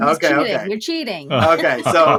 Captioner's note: laughing